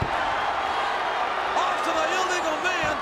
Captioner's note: crowd cheering